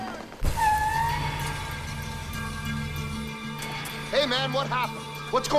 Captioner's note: truck tires screeching; slow music